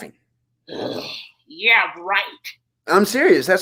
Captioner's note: growls